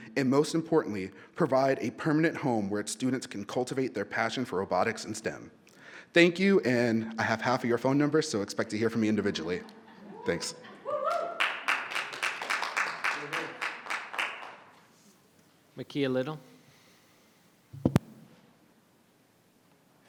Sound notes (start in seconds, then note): 10.8 people cheering; 13.3 person clapping